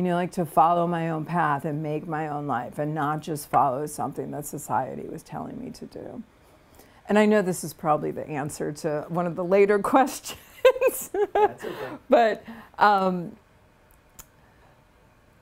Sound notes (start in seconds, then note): 10.6 laughs